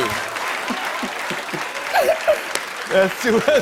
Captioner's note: laughter